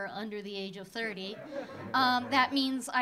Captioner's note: audience laughing